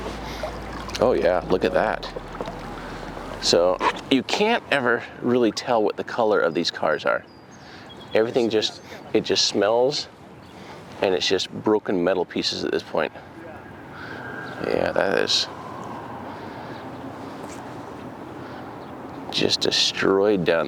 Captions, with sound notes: (water splashing) Oh yeah, look at that. So you can't ever really tell what the color of these cars are. (birds singing) Everything just, it just smells and it's just broken metal pieces at this point. Yeah, that is just destroyed down there.